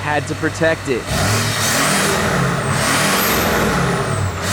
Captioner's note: series of engine revs